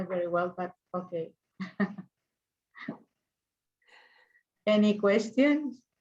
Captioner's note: chuckles